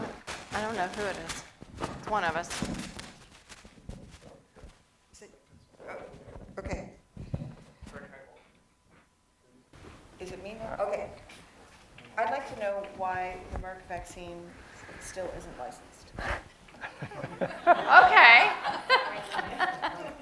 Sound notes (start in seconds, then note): 16.8 laughter